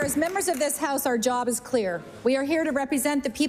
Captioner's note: applause